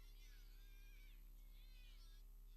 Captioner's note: none